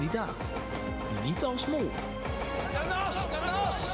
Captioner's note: shouting encouragement